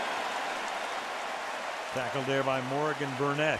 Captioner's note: cheering